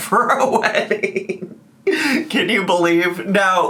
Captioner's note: laughing